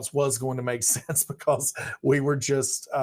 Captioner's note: laughs